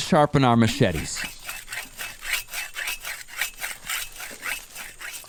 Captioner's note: metal scratching